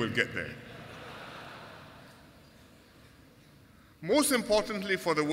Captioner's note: laughter